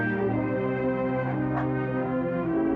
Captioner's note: dog barks